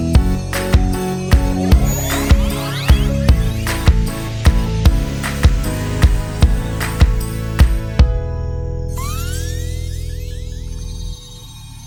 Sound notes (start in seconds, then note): 9.0 magic whirling